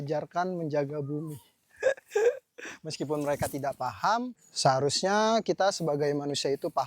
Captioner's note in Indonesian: terkesiap